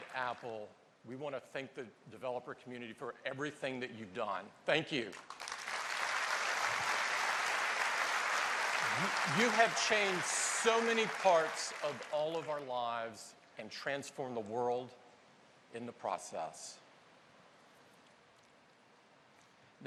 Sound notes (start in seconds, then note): 11.3 applause